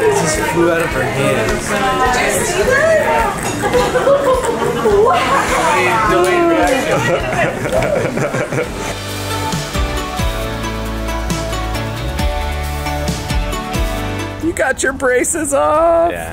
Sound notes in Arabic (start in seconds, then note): 2.8 ثرثرة جماعية; 9.5 موسيقى مبهجة